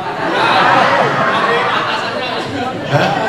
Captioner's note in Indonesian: tertawa